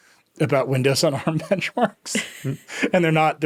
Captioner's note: laughing